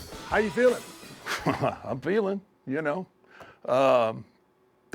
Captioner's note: laugh